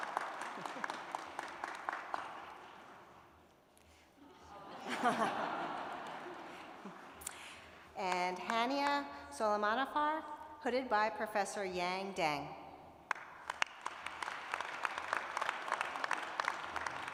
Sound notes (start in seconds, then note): 0.0 applause; 6.2 laughter; 13.0 applause